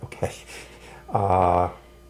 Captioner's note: chuckling